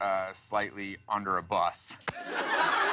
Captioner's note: ding; laughter